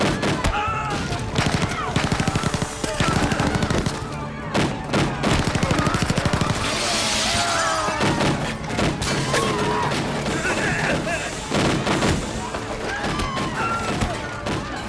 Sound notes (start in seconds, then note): 1.1 gunfire; 6.5 soldier screams; 12.4 people screaming